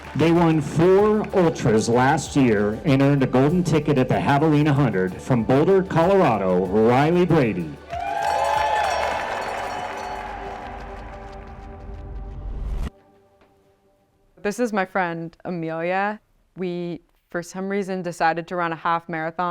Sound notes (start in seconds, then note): 7.8 audience cheers